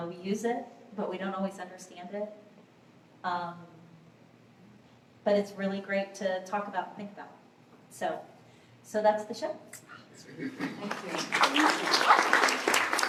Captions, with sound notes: We use it, but we don't always understand it. But it's really great to talk about and think about. So, So, that's the show. (applause)